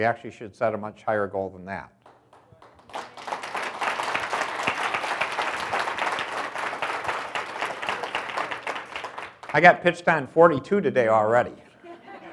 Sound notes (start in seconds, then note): 2.0 audience applauds; 11.6 audience laughs